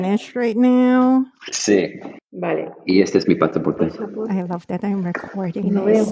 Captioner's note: spanish conversation in the background